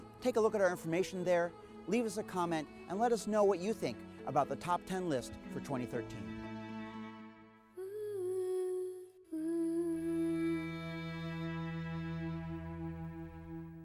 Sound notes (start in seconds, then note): 7.1 gentle music; 7.7 soft humming